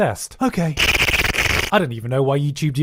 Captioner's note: machine gun slurping SFX